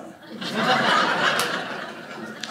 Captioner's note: audience laughing